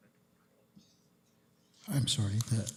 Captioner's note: whispering